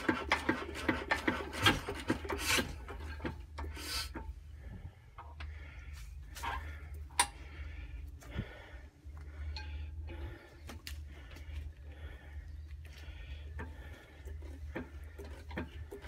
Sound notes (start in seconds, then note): 8.1 tinkle; 10.2 heavy breathing